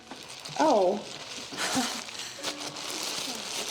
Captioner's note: laughs